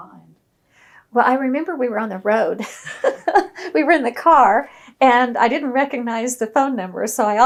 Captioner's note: laughs